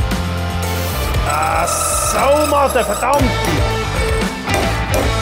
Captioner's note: curses